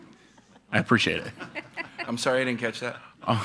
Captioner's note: attendees laughing